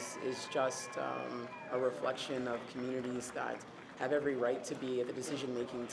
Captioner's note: cheers and Applause